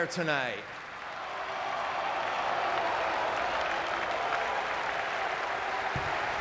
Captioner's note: audience cheering and clapping